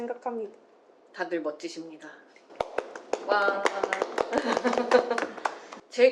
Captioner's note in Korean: 박수